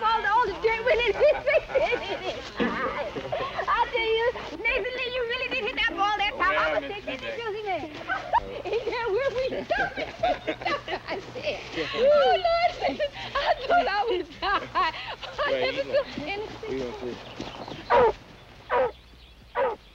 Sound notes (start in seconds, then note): 0.8 laughter; 8.0 laughter; 18.7 barking